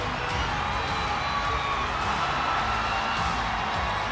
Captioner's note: crowd cheering